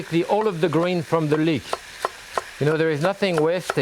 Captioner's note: knife thudding